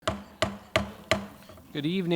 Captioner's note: gavel smacking